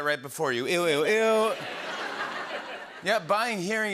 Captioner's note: laughter